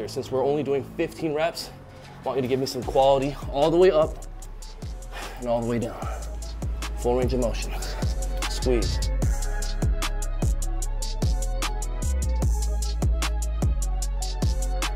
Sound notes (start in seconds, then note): 4.6 exhales; 9.4 moody music resumes